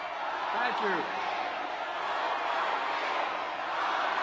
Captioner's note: applause